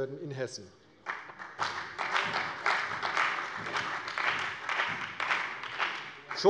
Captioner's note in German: Beifall bei der CDU und dem BÜNDNIS 90/DIE GRÜNEN